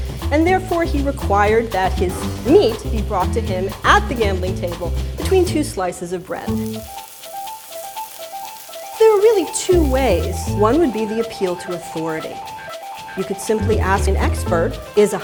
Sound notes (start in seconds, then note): 7.0 sizzling